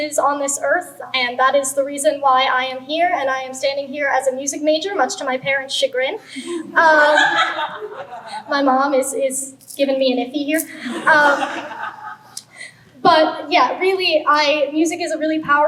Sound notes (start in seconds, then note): 7.9 laughter